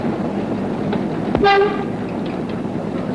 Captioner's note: horn